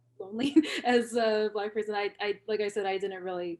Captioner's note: laughter